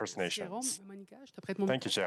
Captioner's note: speaking French